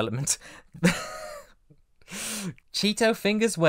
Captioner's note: wheezing laugh